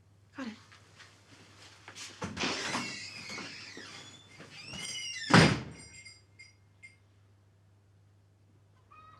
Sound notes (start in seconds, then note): 2.3 door creaking; 5.2 door thuds; 5.6 bells clanging